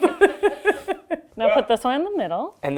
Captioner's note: laughs